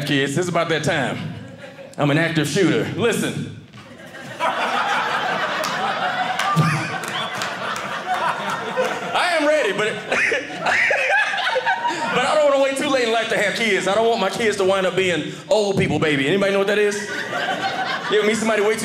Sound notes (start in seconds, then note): 3.8 audience laughing